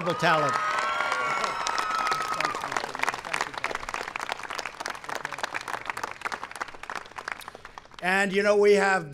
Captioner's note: applause